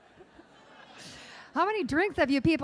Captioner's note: laughing